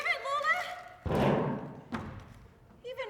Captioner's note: sound of kicking car